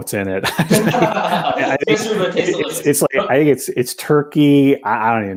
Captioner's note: laughter